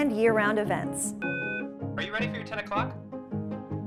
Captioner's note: phone beeps